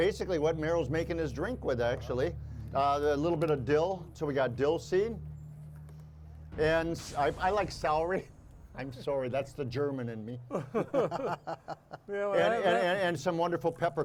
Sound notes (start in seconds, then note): 10.4 laughing